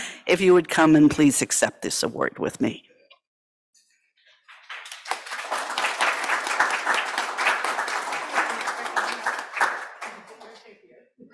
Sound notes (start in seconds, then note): 4.4 applause